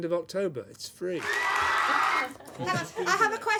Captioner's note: applause